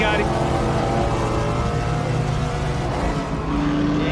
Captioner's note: engines rumbling